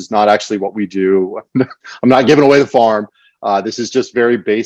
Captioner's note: chuckles